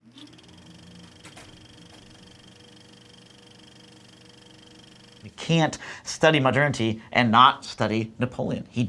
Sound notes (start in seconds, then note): 0.0 film reel rolling